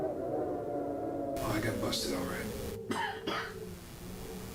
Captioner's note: chokes